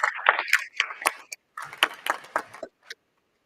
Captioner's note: applause